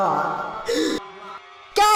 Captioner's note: gasps